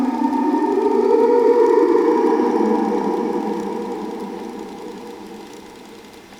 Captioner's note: whale song